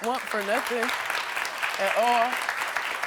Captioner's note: audience applauding